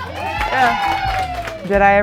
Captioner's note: group cheering